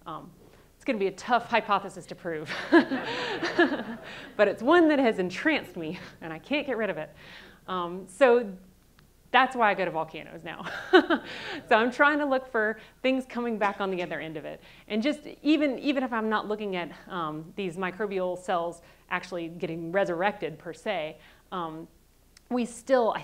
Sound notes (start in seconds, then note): 2.4 all laughing